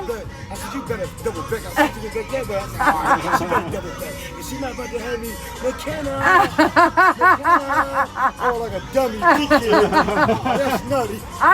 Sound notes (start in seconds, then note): 1.7 officer laughs; 6.0 officer laughs; 9.5 laughs